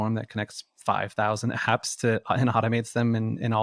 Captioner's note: none